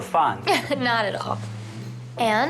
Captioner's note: chuckling